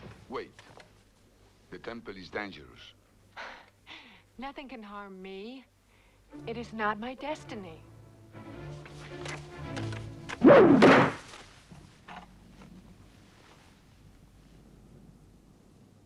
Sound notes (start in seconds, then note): 3.5 Hundra chuckles; 7.7 dramatic music; 10.2 spear thuds